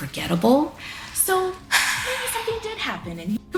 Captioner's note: Kira sighing